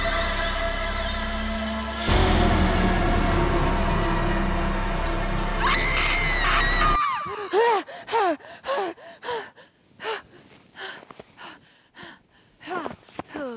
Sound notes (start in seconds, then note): 5.6 Brigit screams; 7.2 Brigit panting